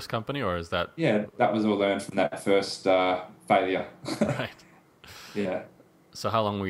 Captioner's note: laughs